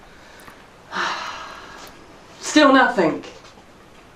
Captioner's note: sighs